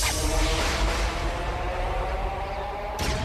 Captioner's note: swirling, thunder